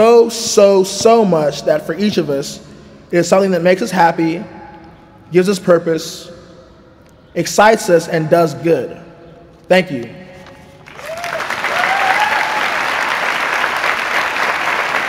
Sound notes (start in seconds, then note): 10.8 applause, cheering